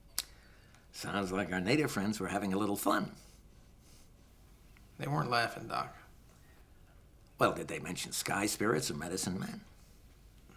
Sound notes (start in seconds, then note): none